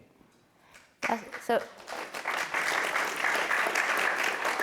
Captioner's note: applause